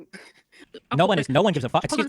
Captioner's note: laughing